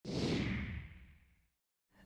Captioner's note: whooshing